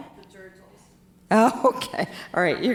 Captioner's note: speaks faintly